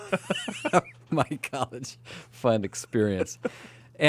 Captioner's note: laughs